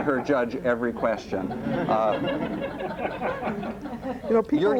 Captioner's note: laughter